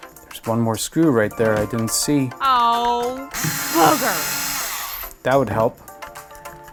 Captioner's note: silly voice: Ohh Boogers